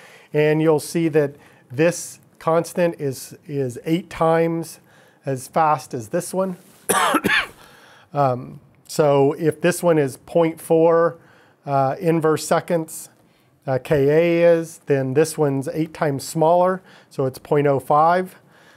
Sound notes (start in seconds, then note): 6.9 coughing